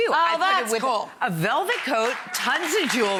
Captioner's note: audience cheers